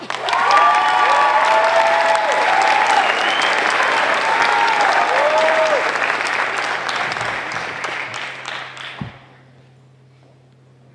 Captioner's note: applause